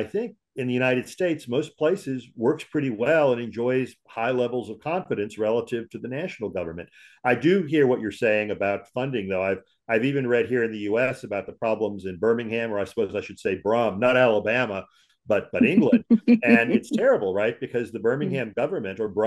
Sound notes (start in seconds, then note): 16.4 laughs